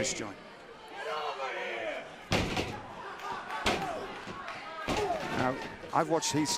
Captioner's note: crowd chatter